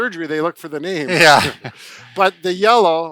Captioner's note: chuckling